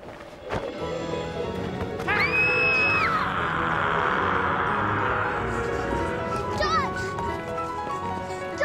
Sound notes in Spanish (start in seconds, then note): 2.4 gritando